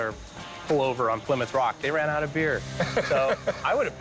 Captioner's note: laughing